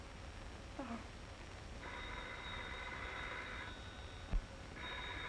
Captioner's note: phone ringing